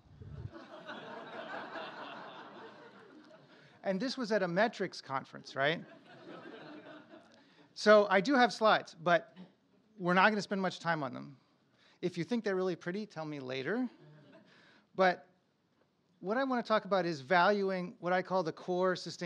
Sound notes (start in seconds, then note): 4.0 laughter; 9.9 laughter